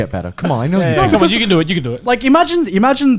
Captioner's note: laughing